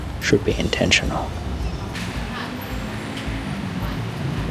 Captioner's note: sounds of Thailand